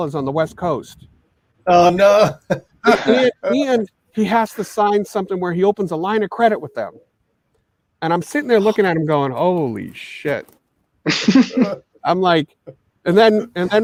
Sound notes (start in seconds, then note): 2.0 chuckles; 11.1 all laughing